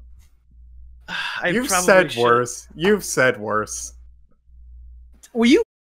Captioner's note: sighs